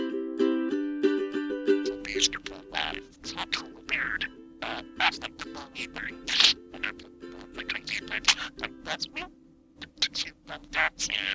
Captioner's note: parakeet chattering